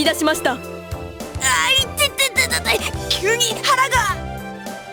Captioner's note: wince in pain